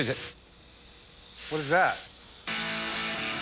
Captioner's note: steam hisses